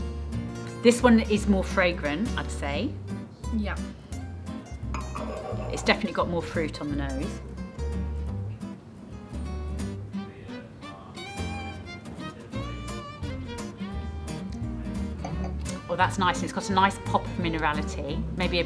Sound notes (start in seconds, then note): none